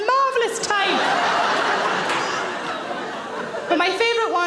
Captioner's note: audience laughs